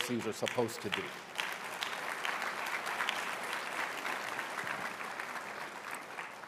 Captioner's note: applause